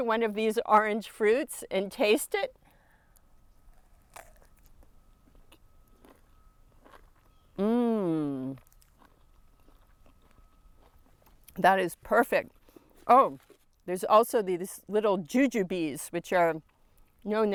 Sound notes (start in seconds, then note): 4.3 fruit crunching